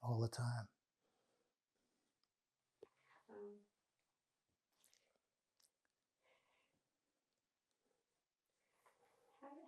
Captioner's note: pauses 8 seconds